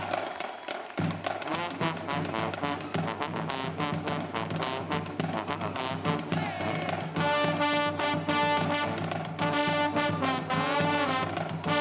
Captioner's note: cheers and Applause